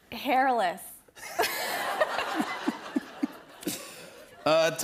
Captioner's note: laughter